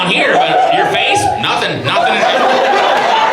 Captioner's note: audience laughs